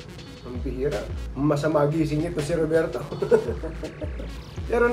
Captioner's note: laugh